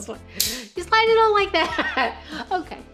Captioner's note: chuckles; lanyard clicks